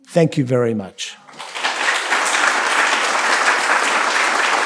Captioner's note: applause